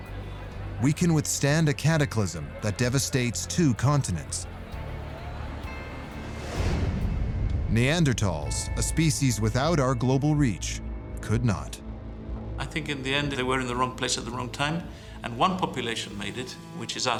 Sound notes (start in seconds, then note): 4.1 indistinct chatter and traffic